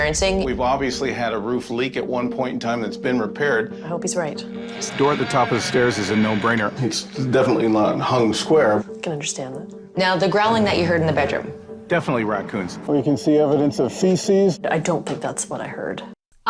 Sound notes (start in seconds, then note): 4.4 door creaks